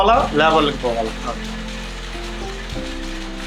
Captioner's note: the constant hum and clatter of the electric loom while weaving